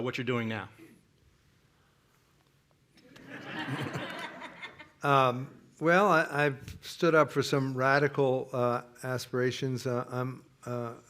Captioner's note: laughter